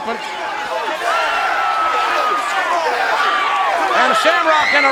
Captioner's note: crowd cheering